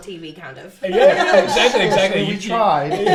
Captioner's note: laughs